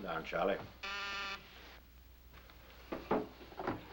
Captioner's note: buzzing